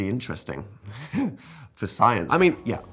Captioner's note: chuckles